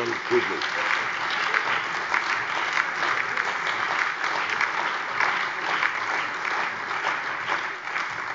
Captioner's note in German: Allgemeiner Beifall